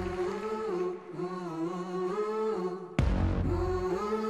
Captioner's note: applause